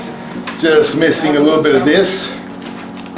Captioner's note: chatter; background chatter